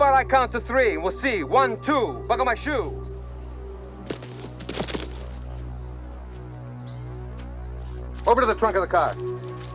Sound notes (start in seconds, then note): 4.5 guns plop